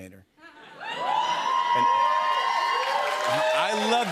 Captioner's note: cheers and applause